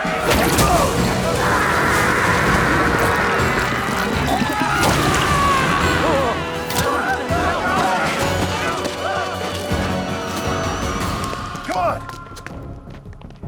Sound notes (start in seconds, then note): 0.1 gunshots popping; 3.5 soldier sputtering; 5.2 soldiers screaming; 9.5 dramatic music continues